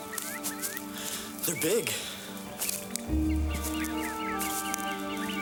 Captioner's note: birds chirping